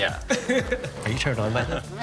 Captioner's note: person laughing